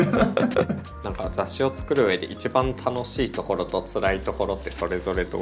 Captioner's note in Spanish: risas